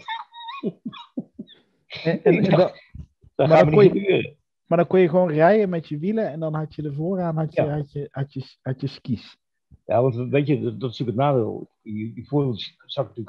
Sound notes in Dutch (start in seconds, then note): 0.0 gelach